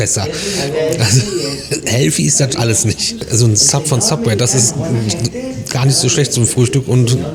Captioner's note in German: gelächter; räuspern